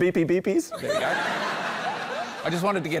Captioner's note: laughter